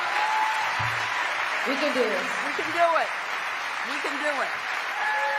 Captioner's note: cheering